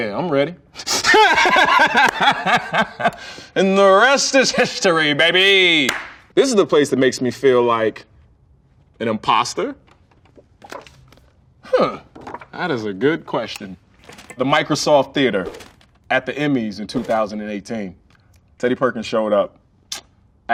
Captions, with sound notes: [laughs] And the rest is history baby. This is the place that makes me feel like an imposter. Huh? That is a good question. The Microsoft theater at the Emmy's in 2018 Teddy Perkins showed up